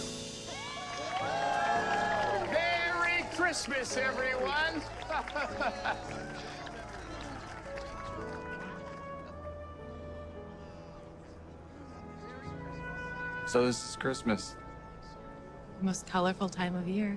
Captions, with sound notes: (cheering) Merry Christmas, everyone. (Mayor laughing) So, this is Christmas. The most colorful time of year.